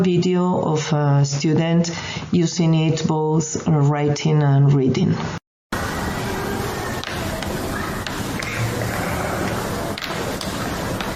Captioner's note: braille display keyboard sound